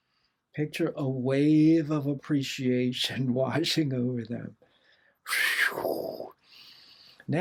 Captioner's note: wooosh